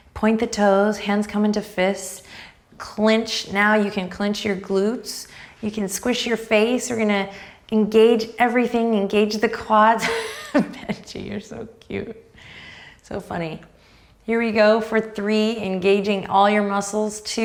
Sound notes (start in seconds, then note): 10.3 laughs